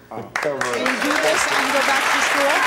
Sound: audience clapping

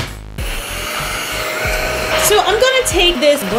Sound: vacuum running

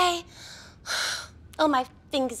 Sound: sighs

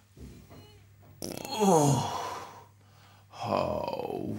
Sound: farts, groans

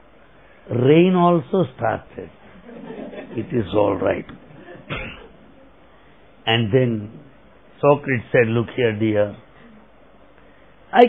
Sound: laughter

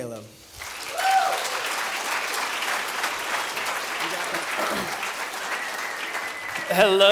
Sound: applause

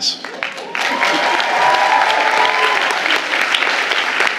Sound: audience applauding

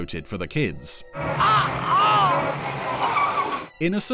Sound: groaning in pain

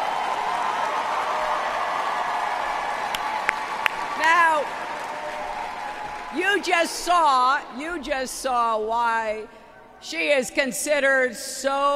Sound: applause

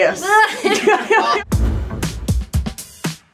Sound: women laugh; upbeat music

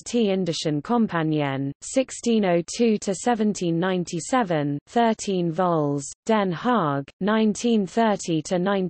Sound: in German

